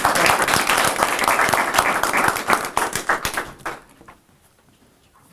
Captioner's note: audience appluading